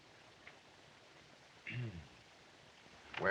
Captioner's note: clears Throat